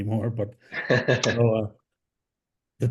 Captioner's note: laughs